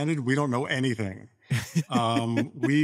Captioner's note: laughs